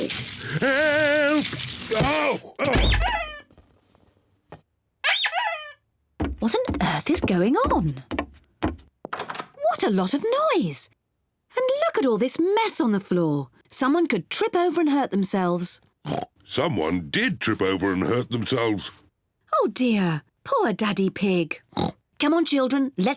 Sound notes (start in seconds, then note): 2.8 rubber ducky squeaks; 16.0 oinks; 21.7 oinks